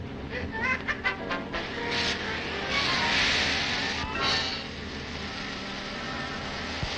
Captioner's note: tense dramatic music; torch sparking; Joe laughing; torch sparking